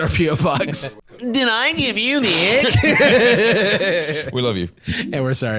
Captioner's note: both laughing